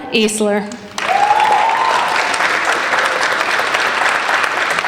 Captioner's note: applauding